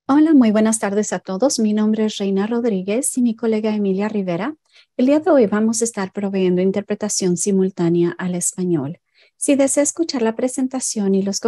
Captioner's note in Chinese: 西班牙語